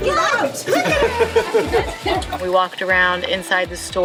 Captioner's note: laughing